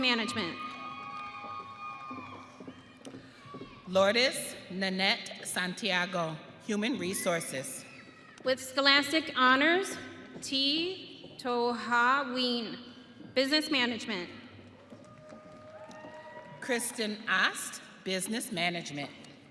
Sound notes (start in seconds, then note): 2.7 audience cheering; 15.0 audience cheering